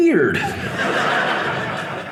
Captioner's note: audience laughing